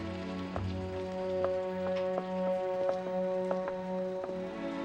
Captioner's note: people chattering